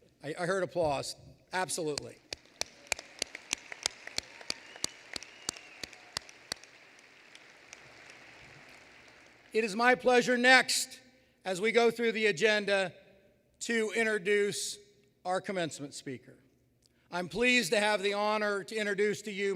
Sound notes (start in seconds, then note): 2.0 applause